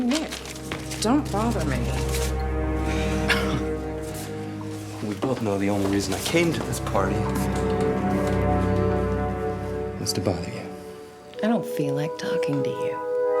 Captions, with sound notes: - Nick, don't bother me. (Nick laughs) - We both know the only reason I came to this party is to bother you. - I don't feel like talking to you.